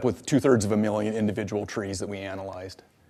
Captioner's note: none